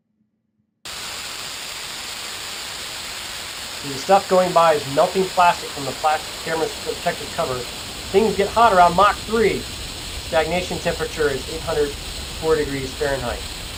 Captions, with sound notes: (recording static) See the stuff going by is melting plastic from the plastic camera's protective cover. Things get hot around Mach 3. Stagnation temperature is 840 degrees Fahrenheit.